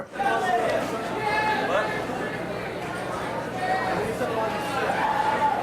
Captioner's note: audience members chattering